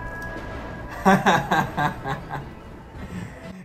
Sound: laughs

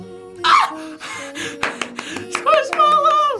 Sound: screams

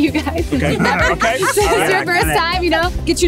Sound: laughing

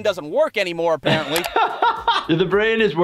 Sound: laughter

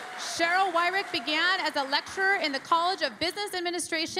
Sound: cheering and Applause

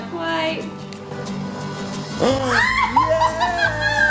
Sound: gasps; screams

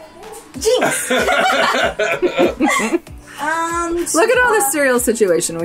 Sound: both laugh

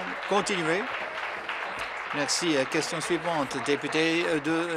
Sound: applause

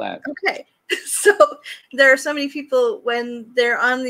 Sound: laughs

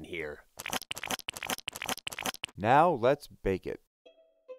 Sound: stirring

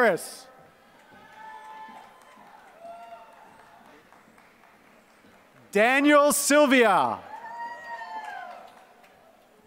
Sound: applause

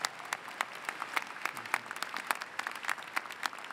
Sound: applause

